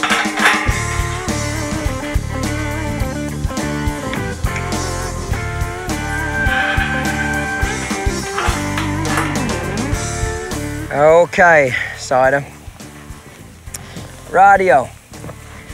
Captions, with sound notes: (upbeat country rock music) (mouth clicking) - Okay, Cider. Righty-oh.